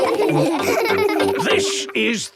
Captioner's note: laughing